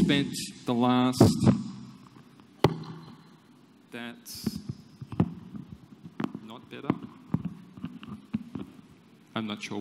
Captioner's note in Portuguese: Sons de microfone